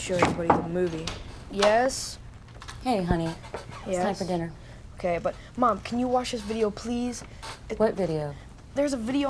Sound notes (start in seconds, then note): 0.2 knock on door